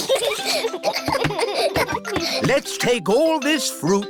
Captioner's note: snorts; children giggle